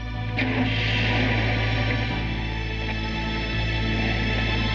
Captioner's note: starts engine